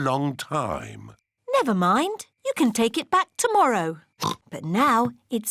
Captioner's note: oinks